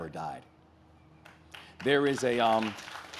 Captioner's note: audience claps